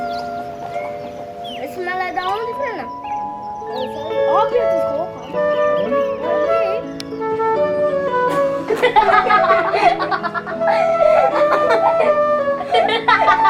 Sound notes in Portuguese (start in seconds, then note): 3.8 Crianças conversando; 8.2 Crianças rindo